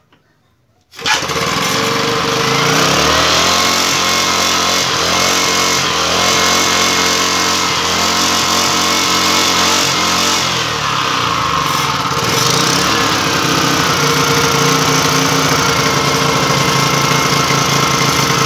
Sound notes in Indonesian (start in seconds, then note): 1.1 bunyi mesin